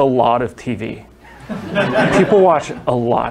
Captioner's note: laughter